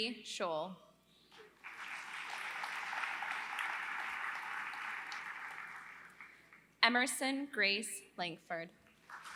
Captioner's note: applause; applause